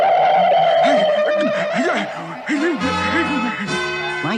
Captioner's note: Adam West Gasps